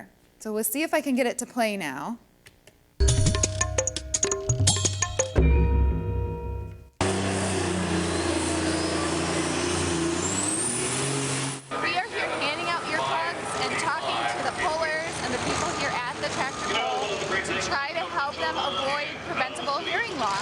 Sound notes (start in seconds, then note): 3.0 upbeat music; 7.0 loud engine noise